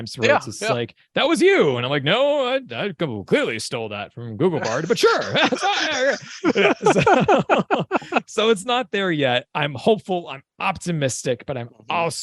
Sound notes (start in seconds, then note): 7.5 chuckle